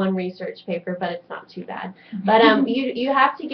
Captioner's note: laughing